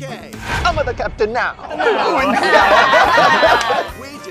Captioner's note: laughter